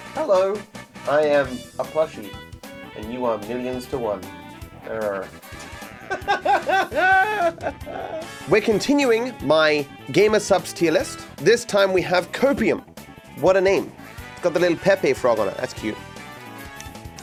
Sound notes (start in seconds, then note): 5.5 laughs